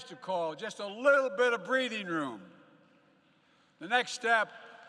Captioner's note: applause